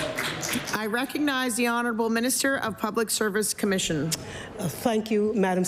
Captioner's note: applause